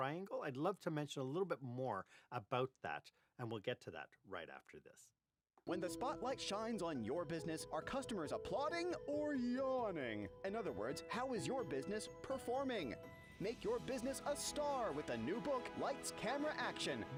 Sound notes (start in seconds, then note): 5.4 voice-over